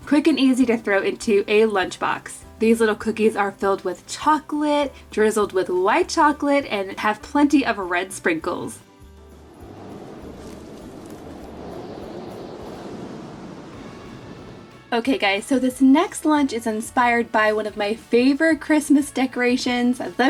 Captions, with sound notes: quick and easy to throw into a lunchbox. These little cookies are filled with chocolate, drizzled with light chocolate, and have plenty of red sprinkles. (wind whistling) Okay, guys, so this next lunch it's inspired by one of my favorite Christmas decorations,